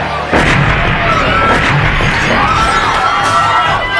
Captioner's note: explosion booming; screaming